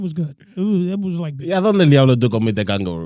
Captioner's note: speaking In Foreign Language